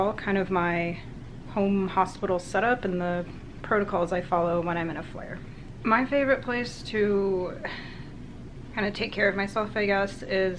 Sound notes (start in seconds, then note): 7.6 sighs